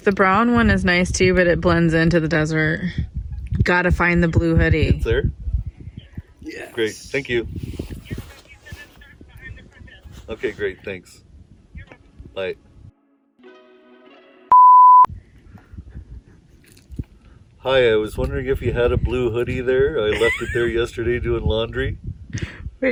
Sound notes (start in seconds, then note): 14.5 beeping